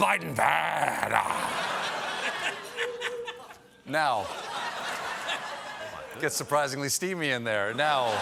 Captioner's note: laughter